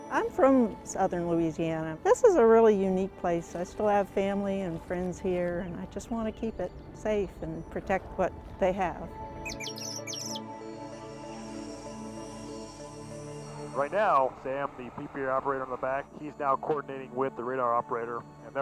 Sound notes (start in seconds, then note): 9.1 birds Chirping; 10.7 jet flying